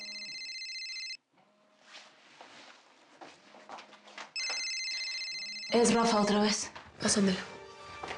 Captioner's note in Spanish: Suena el celular